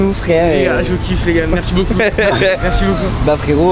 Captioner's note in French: rires